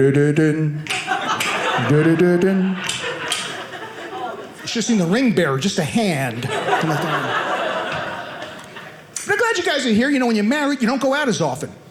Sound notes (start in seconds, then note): 6.2 audience laughing